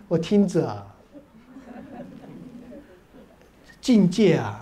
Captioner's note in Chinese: 哈哈哈